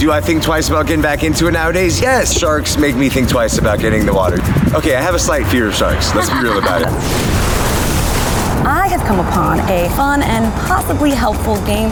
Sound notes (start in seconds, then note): 5.7 laughs; 6.9 splashing